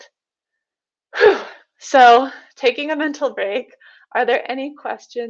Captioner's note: sighs